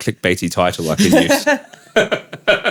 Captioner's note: both laughing